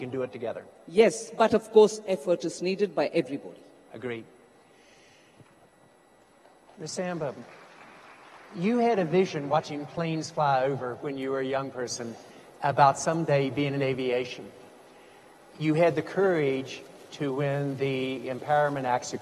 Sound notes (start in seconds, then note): 6.9 audience applauds